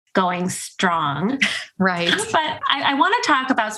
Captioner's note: laughs